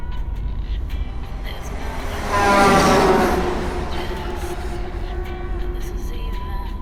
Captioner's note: car horn; a song plays on the car radio